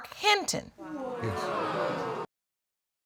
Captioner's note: audience exclaiming